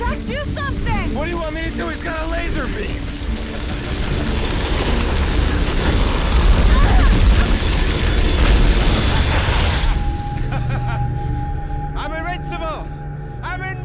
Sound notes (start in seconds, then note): 3.8 laughs; 4.7 fire roaring; 6.5 Liz grunting; 10.3 laughs